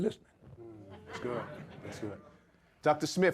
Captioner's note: audience laughs